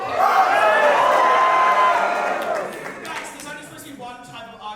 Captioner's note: audience reactions